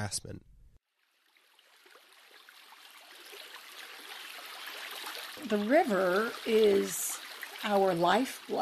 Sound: running Water Sounds

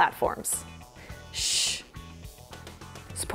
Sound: shush; whispering

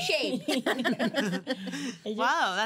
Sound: girls laughing

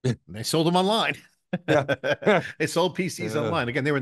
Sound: both chuckling

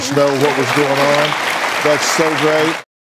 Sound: audience applauds

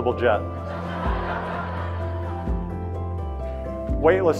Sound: audience laughing

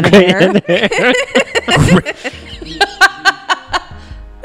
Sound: laughing; laughs

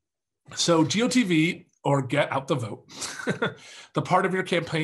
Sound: laughs

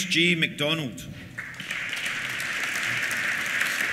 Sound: applause

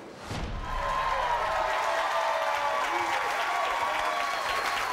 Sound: audience cheering

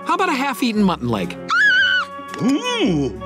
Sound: squealing

